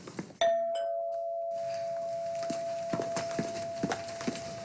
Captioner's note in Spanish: Timbre de la puerta